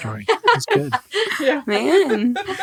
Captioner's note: group laughs